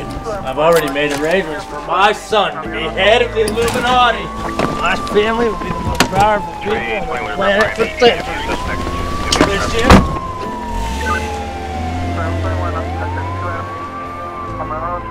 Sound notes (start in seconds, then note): 9.3 door slam cutting him off; 12.2 cop siren drive off